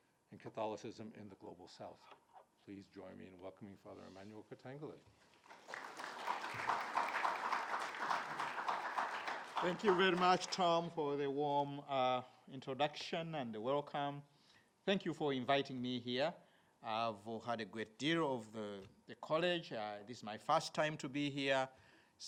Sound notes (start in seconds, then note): 5.4 audience clapping